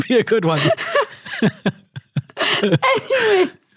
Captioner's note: both laughing